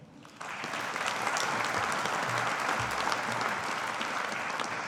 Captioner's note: audience applauding